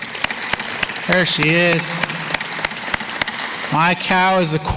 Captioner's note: applause